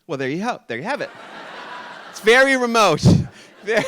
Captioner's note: audience laughing